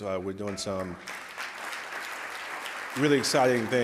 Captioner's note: audience clapping